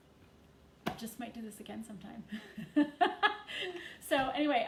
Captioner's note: chuckles